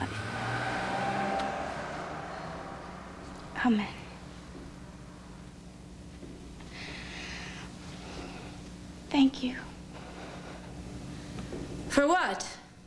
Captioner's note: car drives